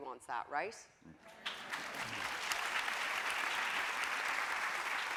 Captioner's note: audience applauding